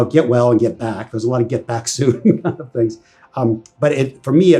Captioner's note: laughs